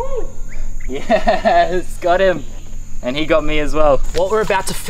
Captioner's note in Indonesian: laugh